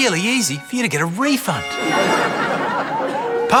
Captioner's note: laughter